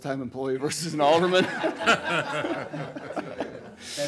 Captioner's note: audience laughing